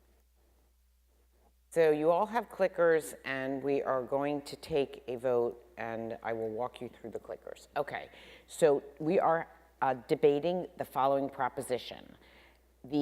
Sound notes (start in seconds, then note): none